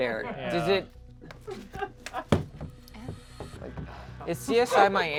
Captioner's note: crew member laughs